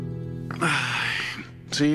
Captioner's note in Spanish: Quejido